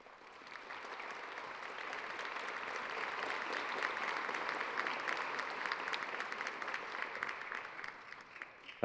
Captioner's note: applause